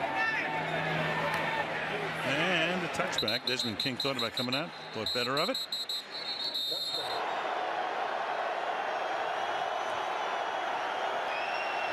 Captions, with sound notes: And the touchback, Desmond King thought about coming out. Thought better of it. [whistle blows] [cheering]